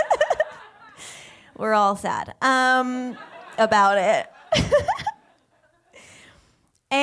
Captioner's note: laughs; laughs